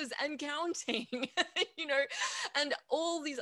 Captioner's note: laughs